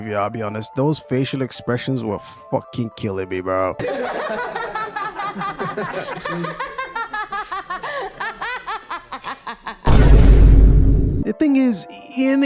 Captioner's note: scene of Nikki laughing historically